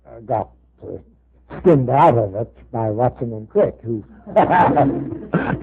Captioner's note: laughter